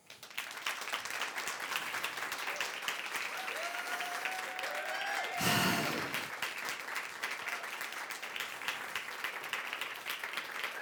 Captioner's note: applause